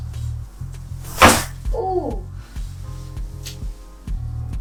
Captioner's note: bones pop